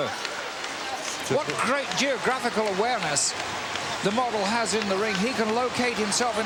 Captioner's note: laugh